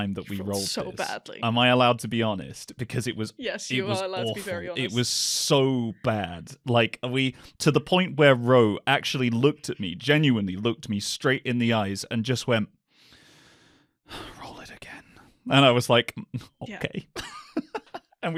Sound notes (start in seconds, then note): 13.9 sighs; 17.0 laughter